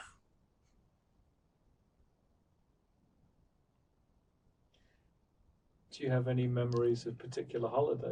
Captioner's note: pauses 6 seconds